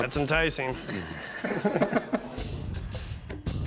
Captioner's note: Rick laughs